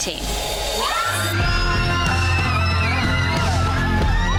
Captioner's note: women cheering